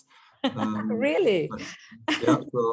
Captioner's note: light laughter